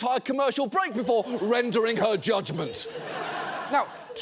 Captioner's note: audience laughs